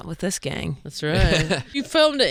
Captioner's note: laughing